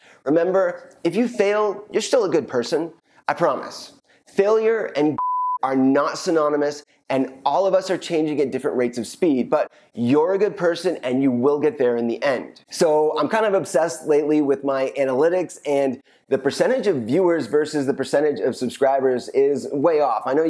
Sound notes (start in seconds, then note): 5.1 beeps